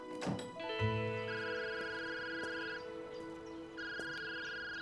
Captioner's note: phone ringing